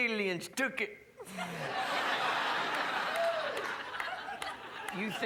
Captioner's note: crowd laughs